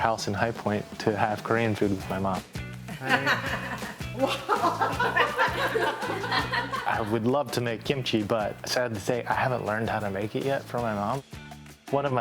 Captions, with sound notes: come over to our house in High Point to have Korean food with my mom. [Mom laughing] I would love to make kimchi, but sad to say, I haven't learned how to make it yet from my mom.